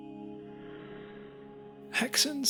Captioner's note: slight Woosh